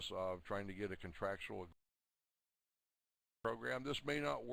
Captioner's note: audio drops